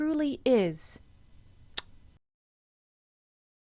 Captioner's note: chef's kiss sound